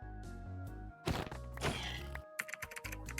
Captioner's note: final sounds of less sudden piglin death